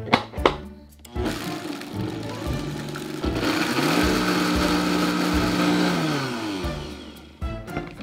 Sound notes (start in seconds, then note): 1.1 blender running